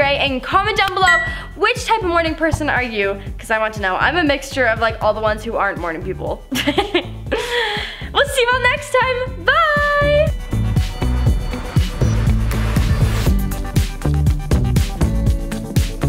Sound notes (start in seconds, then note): 6.6 laughs